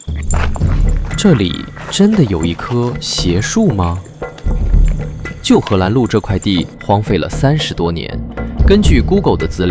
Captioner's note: laughs